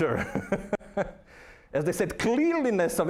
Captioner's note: laughing